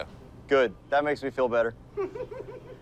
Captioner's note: laughs